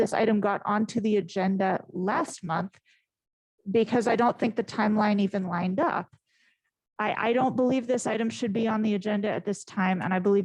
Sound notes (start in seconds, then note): none